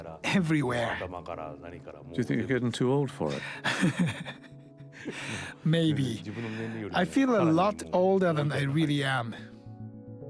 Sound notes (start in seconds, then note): 2.2 voiceover; 5.0 chuckles